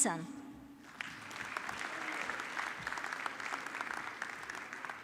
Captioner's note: audience clapping